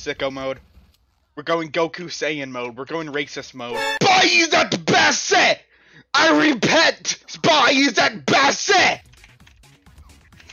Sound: reading chat in highly offensive yet unintelligible accent

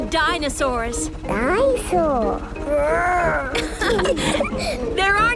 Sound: laughing

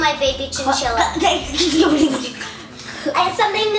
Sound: stuttering

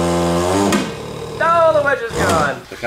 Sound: loud pop

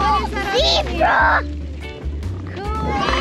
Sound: gasps

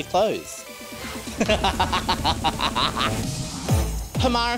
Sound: laughs

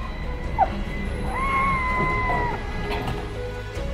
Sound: scream of joy

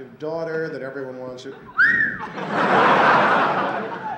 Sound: whistles

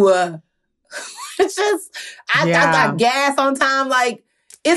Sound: chuckles

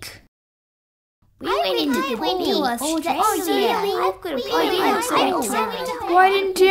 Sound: chatting

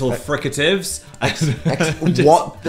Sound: giggling

